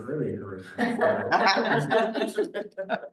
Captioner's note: laughter